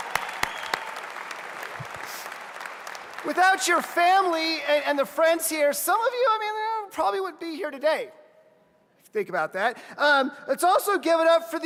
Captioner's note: applause